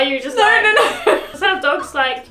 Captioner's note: laughs